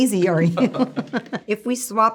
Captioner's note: all laughing